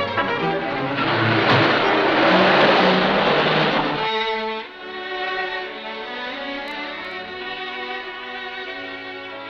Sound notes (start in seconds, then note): 0.0 car accelerating; 4.7 calm music